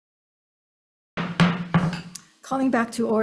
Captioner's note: hammering gavel